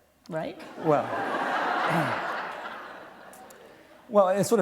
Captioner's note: laughter